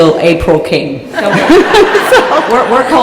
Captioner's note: laughter